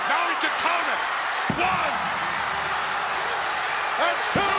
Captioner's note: hand pounding